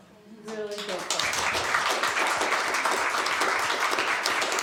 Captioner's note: applause